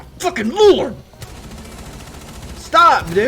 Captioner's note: gunshots